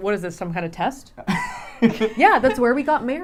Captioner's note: laughing